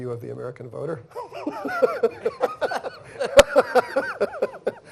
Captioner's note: laughter